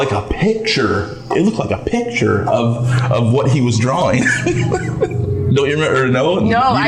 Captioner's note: laughs